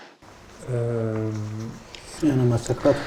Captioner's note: chatter